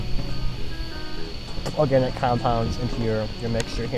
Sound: spit

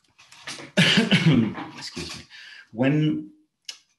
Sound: coughs

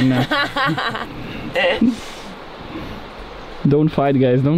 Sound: laughs

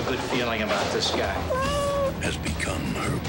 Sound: cat meows

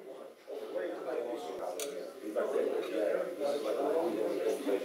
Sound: audience chattering

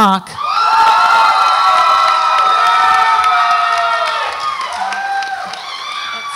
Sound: audience applauds and cheers

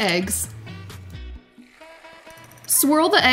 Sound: eggs sizzle

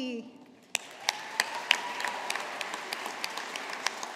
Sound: audience applauding

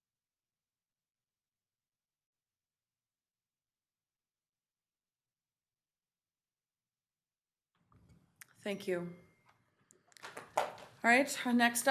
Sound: moment of silence

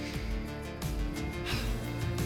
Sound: sighs

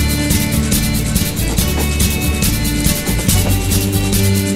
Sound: train whistles

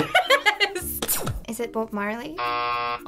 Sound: laughing; hitting button; buzzer

